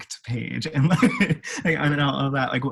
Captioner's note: laughs